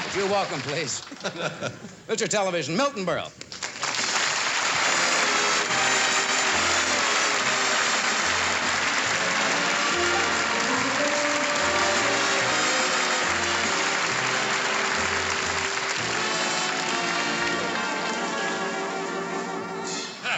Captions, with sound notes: Would you welcome please Mr. Television, Milton Berle. [APPLAUSE]